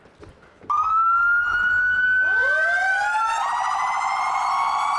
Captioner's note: sirens blaring